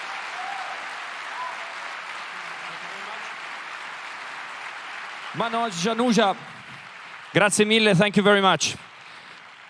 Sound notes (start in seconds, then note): 7.1 cheering/Applause